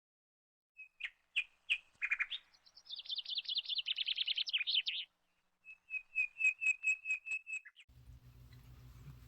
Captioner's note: birds Chirping